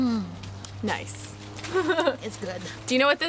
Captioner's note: laughing